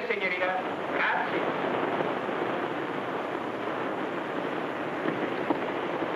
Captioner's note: speaks in foreign language